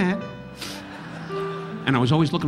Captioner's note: audience laughing